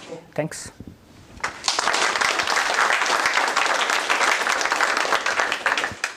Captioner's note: applause